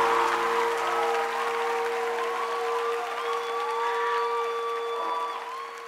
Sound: termina música, aplausos; gritos y aplausos

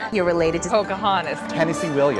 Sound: voiceover

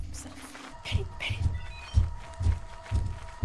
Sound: whispering; footsteps get louder

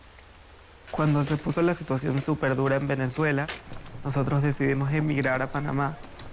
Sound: speaking in foreign language

